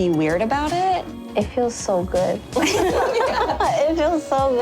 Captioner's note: laughter